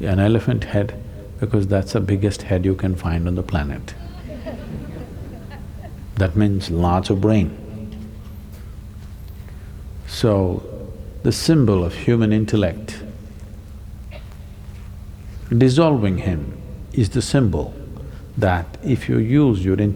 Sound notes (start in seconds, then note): 3.9 few laugh; 8.5 laughs